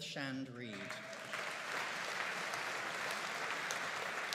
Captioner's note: audience applauding